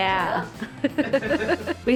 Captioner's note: laughs